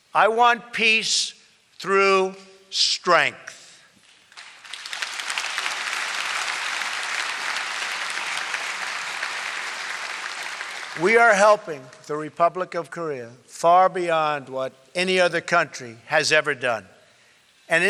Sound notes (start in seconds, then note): 4.0 applause